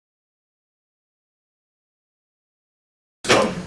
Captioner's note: silence